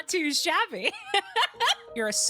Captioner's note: laughter